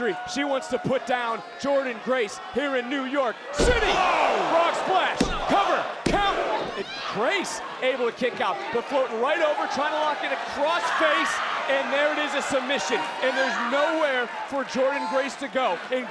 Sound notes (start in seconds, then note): 3.6 body thudding; 5.1 hands thudding